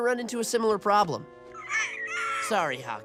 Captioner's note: squawking